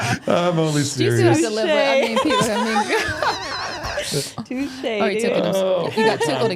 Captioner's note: all laughing